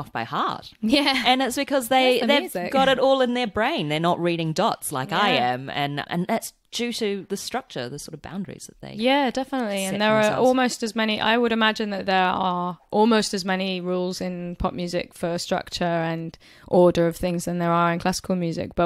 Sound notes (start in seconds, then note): none